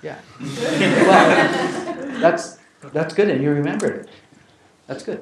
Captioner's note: laugh